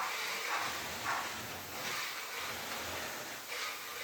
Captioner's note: scraping